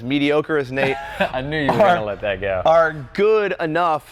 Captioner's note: laughs